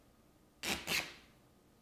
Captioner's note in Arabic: تمزيق